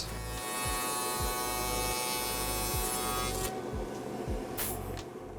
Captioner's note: shaper machine running